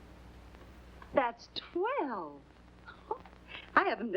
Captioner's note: chuckles